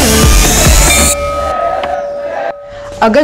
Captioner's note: Bell rings